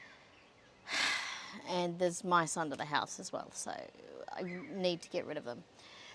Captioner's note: heavy sigh